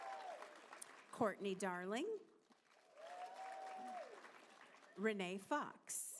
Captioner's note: applause